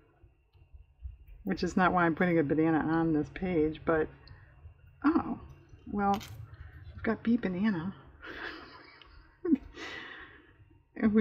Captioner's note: laughs